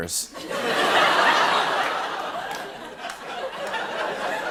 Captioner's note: laughter